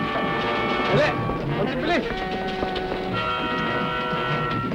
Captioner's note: speaking filipino